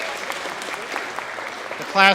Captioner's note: applause